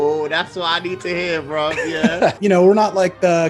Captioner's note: laughing